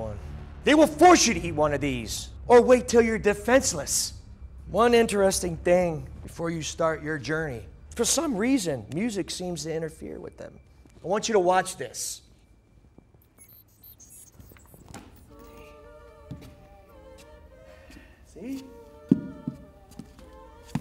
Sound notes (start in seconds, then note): 13.3 robotic beeps; 15.2 opera music starts